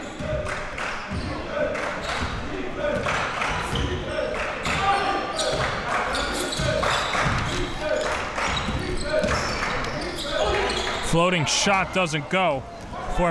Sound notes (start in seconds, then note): 1.2 crowd cheering